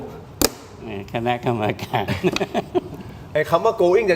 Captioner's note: laughs